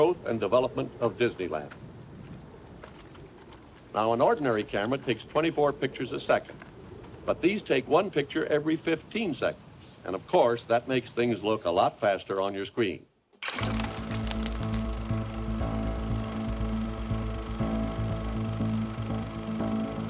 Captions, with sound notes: of the growth and development of Disneyland. Now, an ordinary camera takes 24 pictures a second. But these take one picture every 15 seconds. And of course, that makes things look a lot faster on your screen. (projector whirring) (gentle orchestral music)